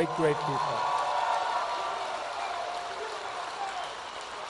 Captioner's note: applause